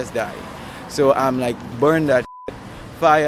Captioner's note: beep